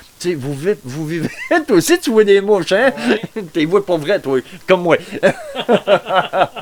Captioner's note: laughter; laugh